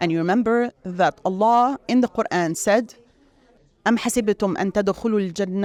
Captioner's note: speaks Arabic